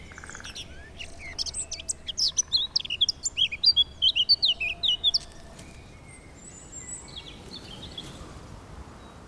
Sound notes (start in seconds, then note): 0.0 birds